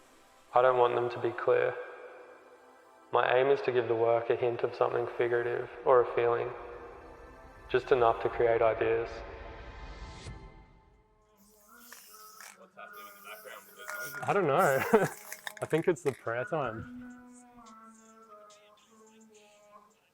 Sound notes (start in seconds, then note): 11.4 paint sprays; 12.9 laughs; 17.2 chanting music